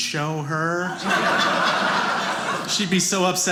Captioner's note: audience laughing